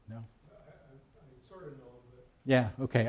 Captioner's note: someone speaking off mic